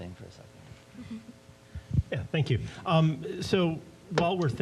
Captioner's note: chuckling